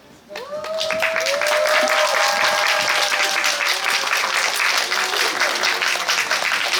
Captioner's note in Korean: 박수